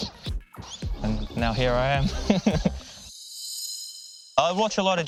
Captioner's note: laughs